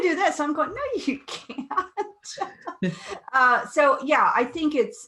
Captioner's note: laughs